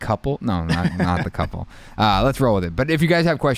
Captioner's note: chuckles softly